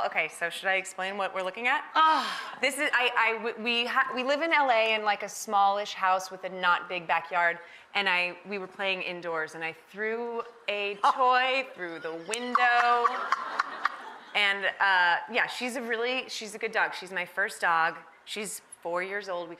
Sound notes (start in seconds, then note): 2.0 sighs; 11.8 giggling; 12.4 audience laughs